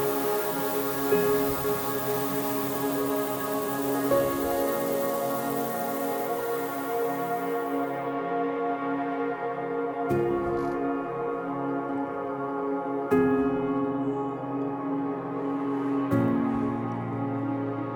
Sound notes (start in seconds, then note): 3.6 shower splashing; 12.9 soft music